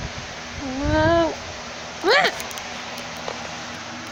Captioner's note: exclaims